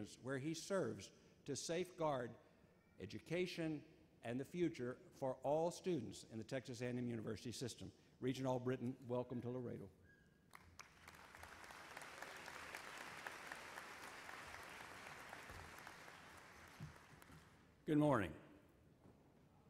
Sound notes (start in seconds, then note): 10.5 audience applauds; 18.0 voiceover